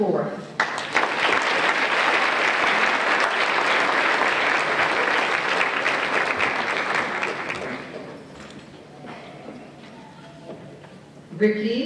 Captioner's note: applause